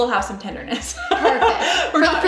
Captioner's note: laughs